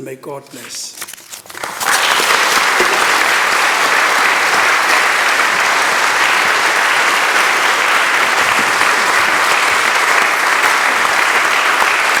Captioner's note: applause